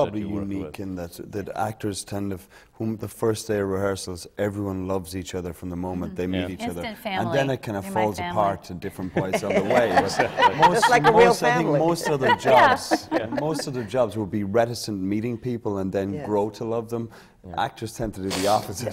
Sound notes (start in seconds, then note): 9.0 laughter